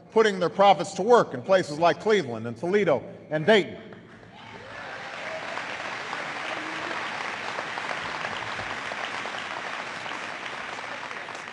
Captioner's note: applause